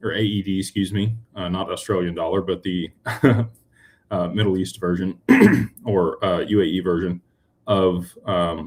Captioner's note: clears throat